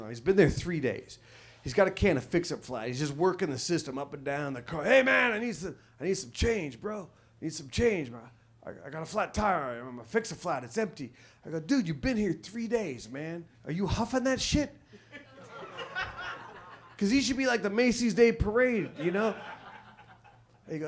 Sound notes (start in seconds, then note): 15.1 audience laughs